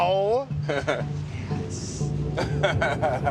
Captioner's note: laughs; whispering; laughs